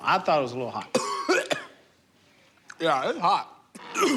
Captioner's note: coughs